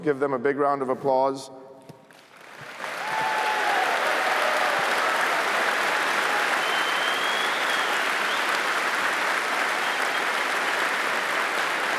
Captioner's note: applause